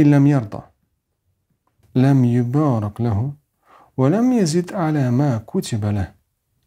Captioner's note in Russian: Говорит на арабском